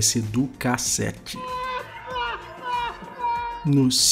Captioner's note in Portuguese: risada